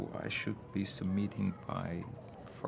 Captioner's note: none